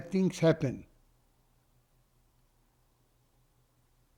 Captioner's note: pauses 6 seconds